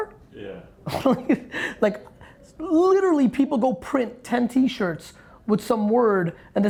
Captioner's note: laughing